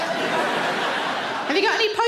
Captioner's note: audience laughs